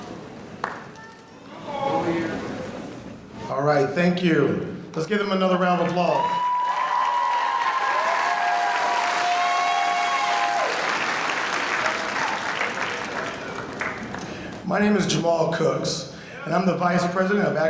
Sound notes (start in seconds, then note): 6.1 audience applauding; 9.8 audience cheering